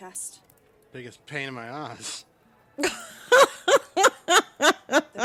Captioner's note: Mary laughs